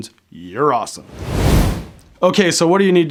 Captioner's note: air whooshing